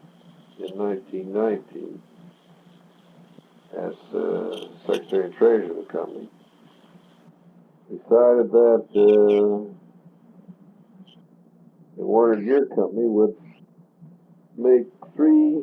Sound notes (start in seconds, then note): 10.4 buzzing noise